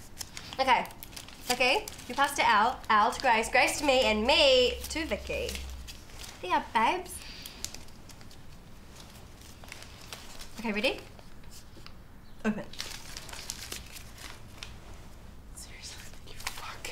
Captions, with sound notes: Okay Vicky, you pass to Al, Al to Grace, Grace to me and me... To Vicky Here ya are, babes Ok, ready? Open *paper rustles* *whispers* Seriously? *whispers* You fuck